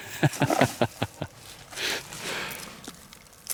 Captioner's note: laughs